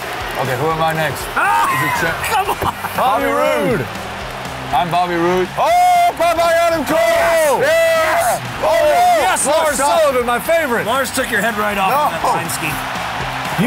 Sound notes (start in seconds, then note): 1.6 yells; 5.7 yells